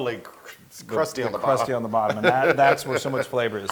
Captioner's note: laugh